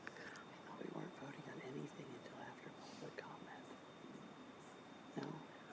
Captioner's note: whispers